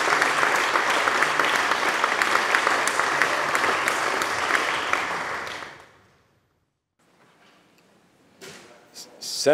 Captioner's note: applause